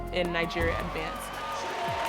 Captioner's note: loud applause; announcer speaking